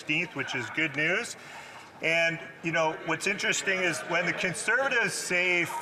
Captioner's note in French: voix de l'interprète